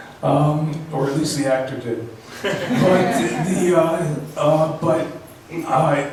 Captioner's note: laughs